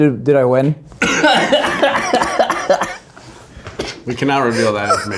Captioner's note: all laughing